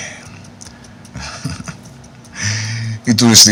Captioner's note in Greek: γέλια